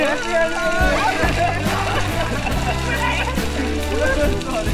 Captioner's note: indistinct conversations